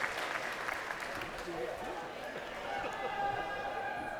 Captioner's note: crowd cheering